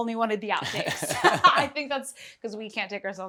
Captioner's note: laughter